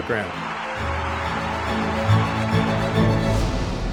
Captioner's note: crowd roars